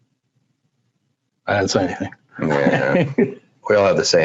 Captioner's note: laughs